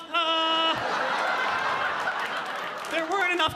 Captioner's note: audience laughing